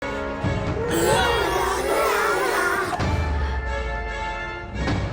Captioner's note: puppets groaning